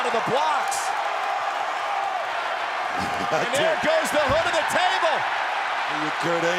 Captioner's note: applause